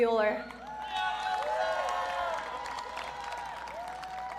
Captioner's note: audience cheering